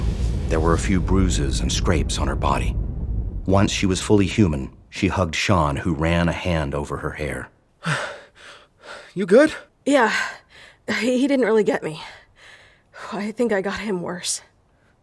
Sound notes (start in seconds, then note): 7.8 winded